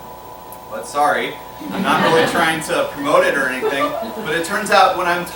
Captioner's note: laughter